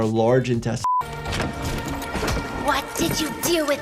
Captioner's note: eerie music; footsteps thudding